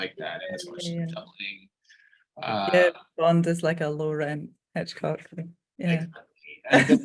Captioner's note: laughing